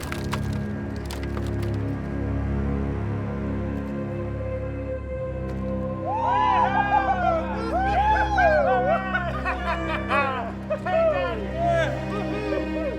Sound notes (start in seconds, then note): 6.0 cheering